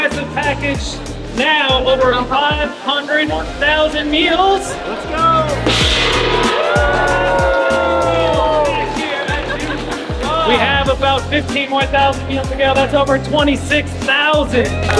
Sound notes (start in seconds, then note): 6.1 gong ringing; 6.1 people cheering